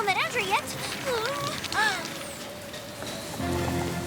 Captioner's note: whimpers, gasps